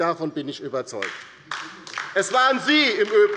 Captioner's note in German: Beifall bei der LINKEN